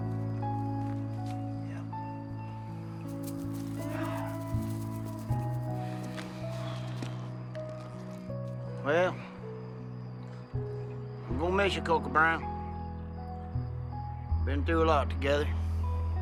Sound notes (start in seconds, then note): 6.4 sighs